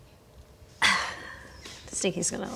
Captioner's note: sigh